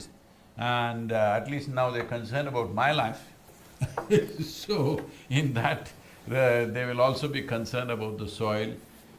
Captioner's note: laughs